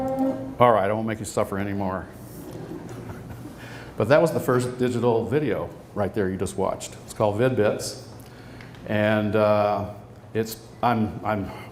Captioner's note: laughs